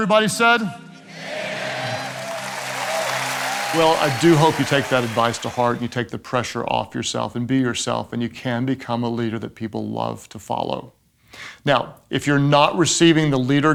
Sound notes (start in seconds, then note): 1.1 audience cheering